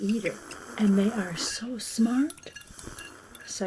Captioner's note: Del slurping